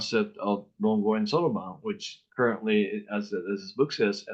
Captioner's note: speaking in foreign language